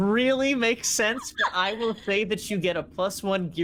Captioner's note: laughing